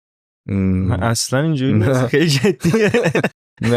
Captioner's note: laughs